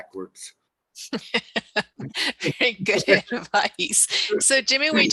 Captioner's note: laughing